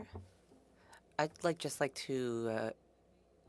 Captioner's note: speaking French